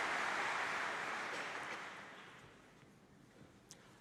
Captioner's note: applause